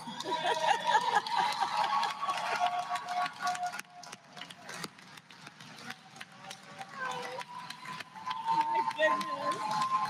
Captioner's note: applause